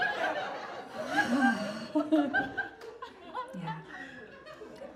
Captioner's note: audience laughs